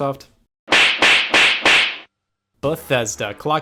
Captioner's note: slaps